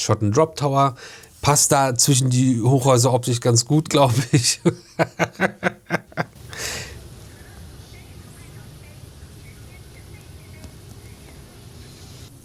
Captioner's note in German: gelächter; schnauben